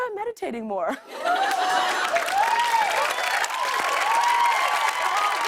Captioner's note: cheers and applause